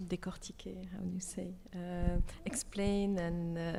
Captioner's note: speaks French